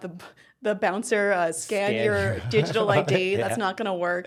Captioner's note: laughing